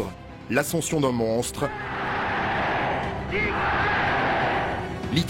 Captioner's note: German spoken audio